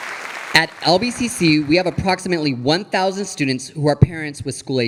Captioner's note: audience applauding